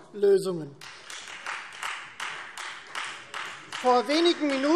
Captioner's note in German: Beifall Freie Demokraten